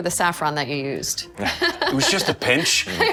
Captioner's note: laughing